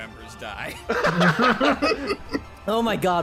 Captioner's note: laughter